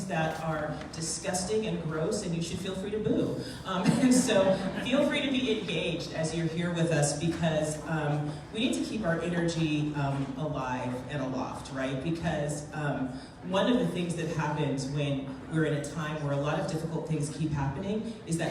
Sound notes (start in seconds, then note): 4.1 laughs